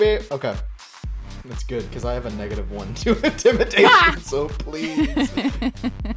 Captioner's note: chuckle